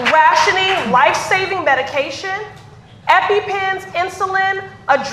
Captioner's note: applause